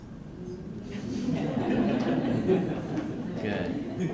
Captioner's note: laughter